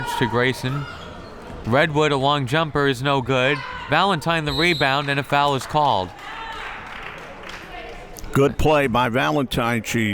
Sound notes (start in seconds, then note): 4.5 whistle tweeting; 7.0 crowd members clapping